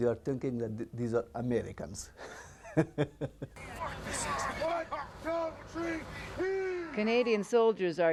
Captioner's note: laughs